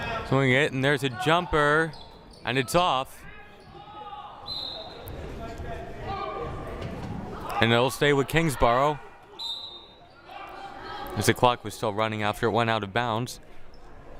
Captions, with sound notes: Swinging it, and there's a jumper, and it's off. (crowd shouting) (whistle blaring) And it'll stay with Kingsborough, (whistle blaring) as the clock was still running after it went out of bounds.